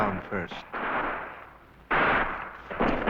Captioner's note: gunfire